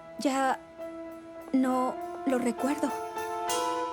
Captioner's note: none